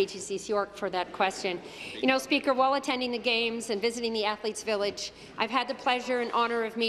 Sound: speaking in French

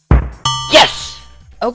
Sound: ding

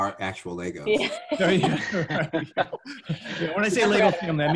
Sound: laughs

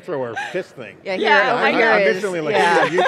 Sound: laughing

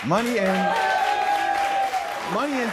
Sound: audience claps and cheers

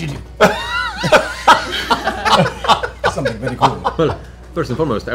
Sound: laughter

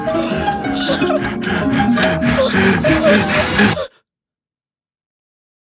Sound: man breathing heavily

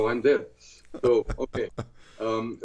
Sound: laughter

